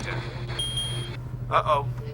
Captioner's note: dinging